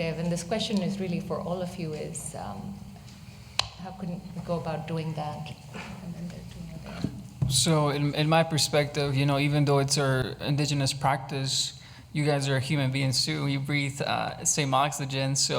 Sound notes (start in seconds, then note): none